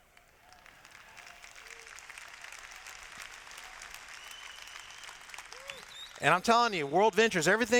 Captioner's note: applause